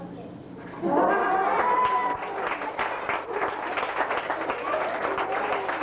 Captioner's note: audience laughter and applause